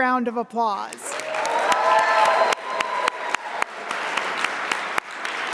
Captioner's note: audience applauding